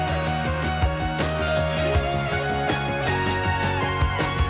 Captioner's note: none